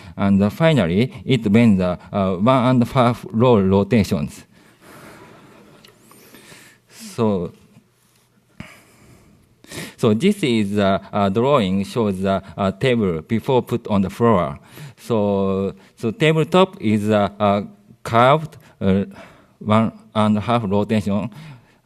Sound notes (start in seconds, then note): 4.4 laughter